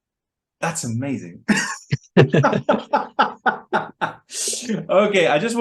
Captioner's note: they laugh